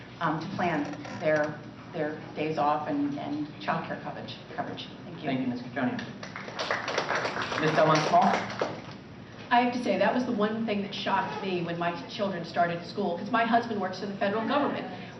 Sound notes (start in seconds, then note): 6.2 applause